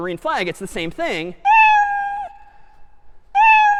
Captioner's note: meowing